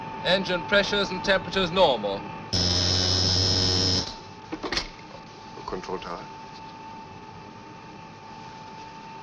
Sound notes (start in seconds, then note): 2.5 machine whirring